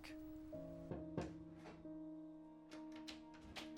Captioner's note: knock on door